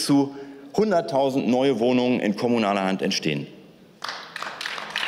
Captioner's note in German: Beifall